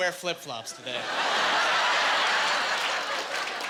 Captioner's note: laughing